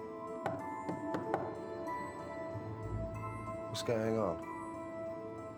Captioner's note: knocking